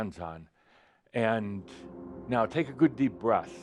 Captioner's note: droning noise begins